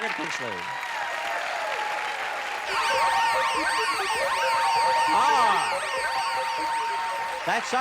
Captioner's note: applause